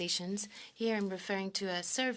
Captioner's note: speaking French